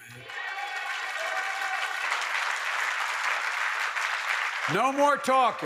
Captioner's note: applause